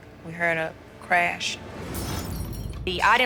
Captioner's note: glass breaking